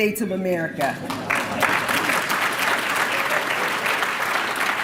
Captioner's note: applause